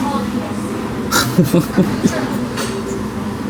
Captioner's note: laughs